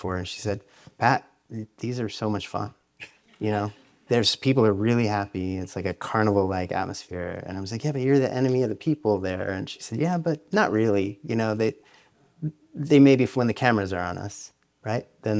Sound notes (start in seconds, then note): 3.1 audience laughs